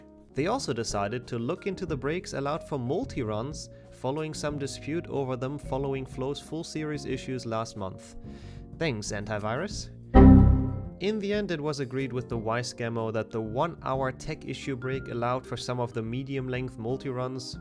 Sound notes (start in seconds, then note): 10.1 windows error sound